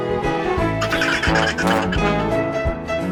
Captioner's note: laughter